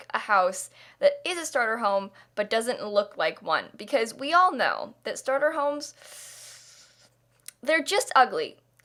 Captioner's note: inhaaaale